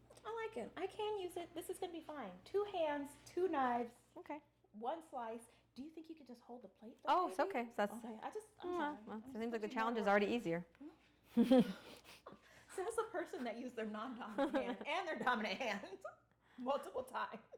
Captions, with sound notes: I like it. I can use it. This is gonna be fine. Two hands, two knives. Okay. One slice. Do you think you could just hold the plate? Oh, it's okay. It seems like the challenge is already easier. (laughing) So as a person that used their non-dominant hand and their dominant hand multiple times.